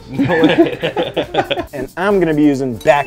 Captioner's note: laughter